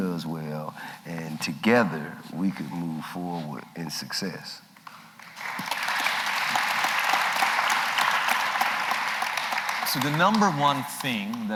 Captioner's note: applause